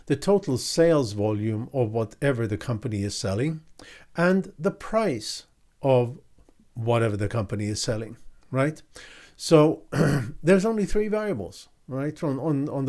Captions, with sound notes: the total sales volume of whatever the company is selling, and the price of whatever the company is selling. So, (clears throat) there's only three variables